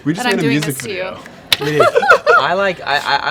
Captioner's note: laughs